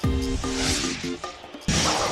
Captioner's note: whooshing